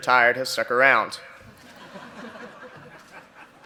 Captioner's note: laughter